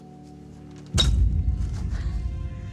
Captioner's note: shovel thuds on ground; emotional music